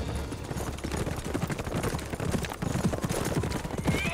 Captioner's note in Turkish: At nalı sesleri; At kişneme sesi